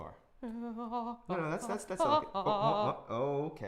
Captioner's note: Safiya groaning loudly